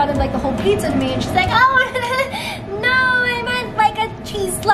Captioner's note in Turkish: kıkırdayarak